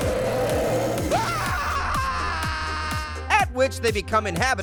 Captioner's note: Pear screaming